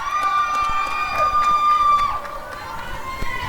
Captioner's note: applause and cheering